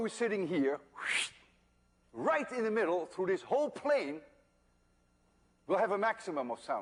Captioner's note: fsswwt